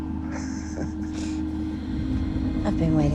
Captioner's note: Sinclair laughs